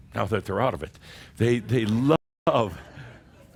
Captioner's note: some chuckles